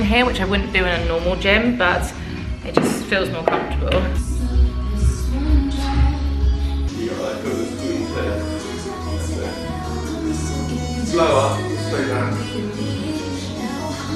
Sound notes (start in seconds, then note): 4.5 light upbeat music; 7.0 light upbeat music continues; 7.0 speaking over music